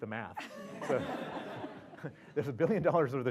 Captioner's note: laugh